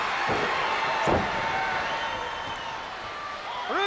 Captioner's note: spectators cheering